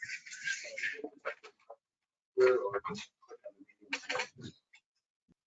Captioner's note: people chattering distantly